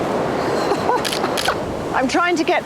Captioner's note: laughs; waves roaring; camera shutter clicks